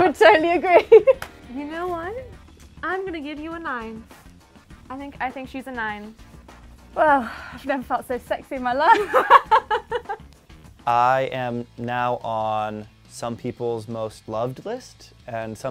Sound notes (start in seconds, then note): 8.8 both laugh